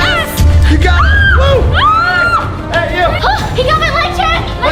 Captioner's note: screams